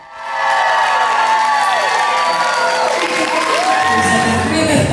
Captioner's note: cheers